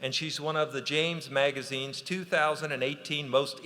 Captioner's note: none